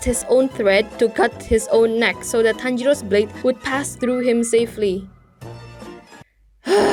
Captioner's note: sigh